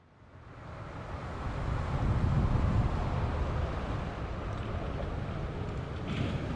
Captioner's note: traffic rumbling